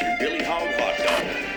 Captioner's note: tv ads playing